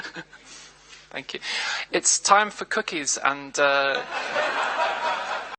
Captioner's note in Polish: śmiech